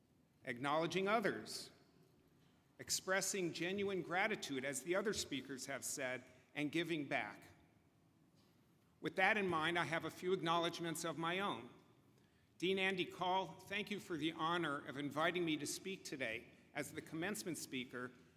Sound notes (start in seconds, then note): none